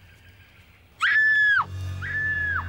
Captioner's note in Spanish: gritando